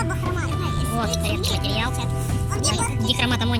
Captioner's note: say in a funny voice; speak in a funny voice